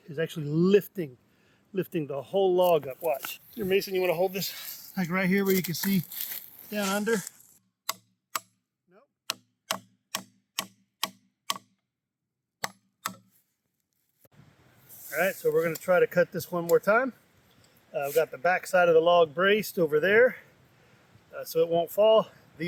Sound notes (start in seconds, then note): 9.6 hammering